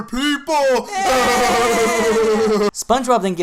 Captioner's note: both laugh